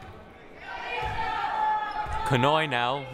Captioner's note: crowd cheering